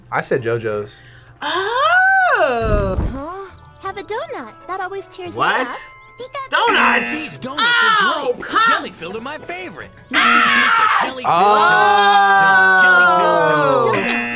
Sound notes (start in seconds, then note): 5.6 bell dings; 6.6 error buzzer; 10.1 screams; 14.0 error buzzer